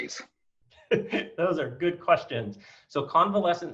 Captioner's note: chuckles